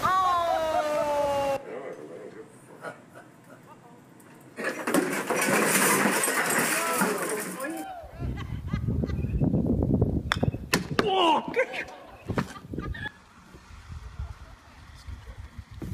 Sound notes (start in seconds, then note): 1.2 woman laughing; 4.6 items crashing; 4.7 congregation reacting; 10.8 congregation reacting; 11.1 cameraman groaning